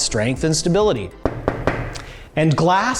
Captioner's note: knocks on glass